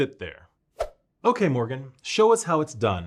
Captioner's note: swoosh effect